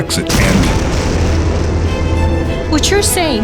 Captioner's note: explosion roars